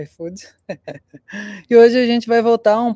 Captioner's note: laughter